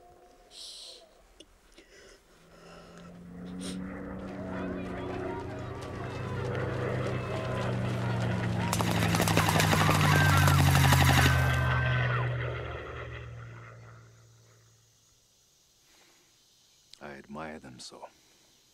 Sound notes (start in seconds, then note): 2.3 plane Engine Buzzing; 7.9 people Screaming; 8.5 gunshots